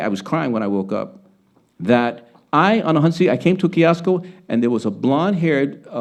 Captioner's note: speaking Spanish